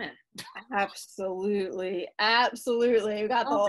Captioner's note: laughs